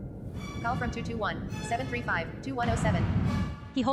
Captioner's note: ringtone echoes